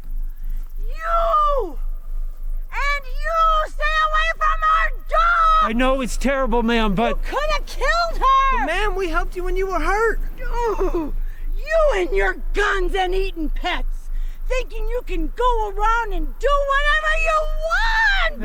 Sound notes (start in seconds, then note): 1.1 echo carrying